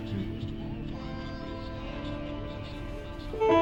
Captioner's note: chuckling